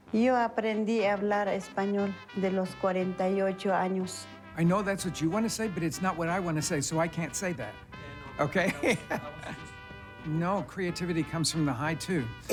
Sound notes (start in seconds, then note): 4.5 in English; 8.5 laughs